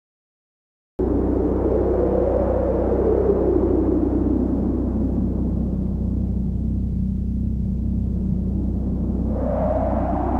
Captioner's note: wind Sounds